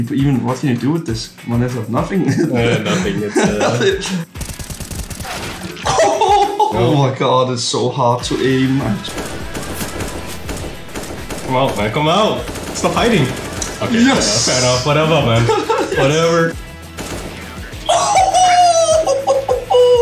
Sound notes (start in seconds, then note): 2.5 trying not to cry; 14.3 complaining